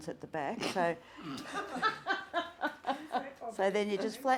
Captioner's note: people laughing